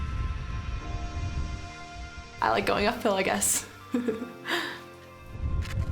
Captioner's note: laughing